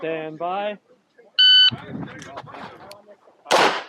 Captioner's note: machine beeping; gunshots banging